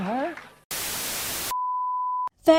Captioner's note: static